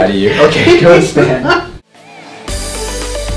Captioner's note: patient laughing; upbeat music